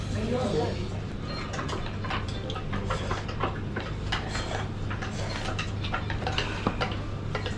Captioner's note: ASMR of scratching the plate~